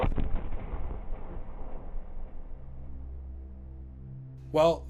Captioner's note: thunderous booming